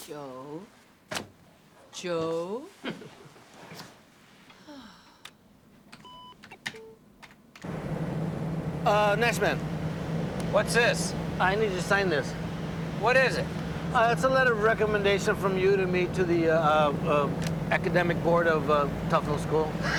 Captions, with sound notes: Joe? Joe? (sighs) Uh, Nashman? What's this? I need you to sign this. What is it? It's a letter of recommendation from you to me to the, uh, uh, academic board of, uh, Tufnel School.